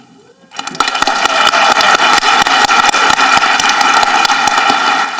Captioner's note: audience applauding